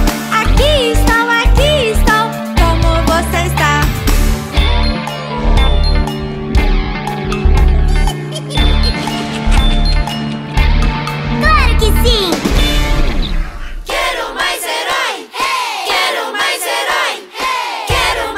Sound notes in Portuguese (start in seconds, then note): 4.4 Música Hallowen; 4.4 Risos